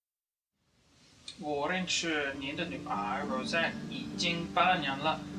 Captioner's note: speaking Chinese